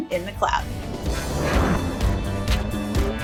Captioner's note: logo Whooshes